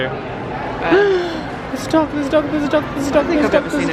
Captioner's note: gasps